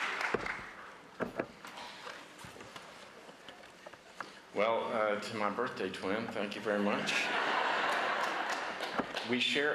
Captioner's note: applause